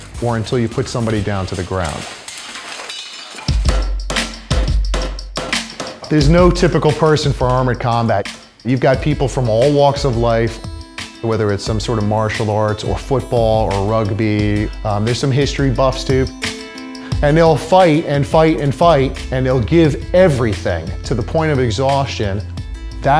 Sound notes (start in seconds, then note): 3.8 banging